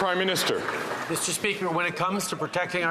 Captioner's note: some Applause